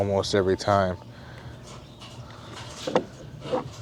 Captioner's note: wood clunking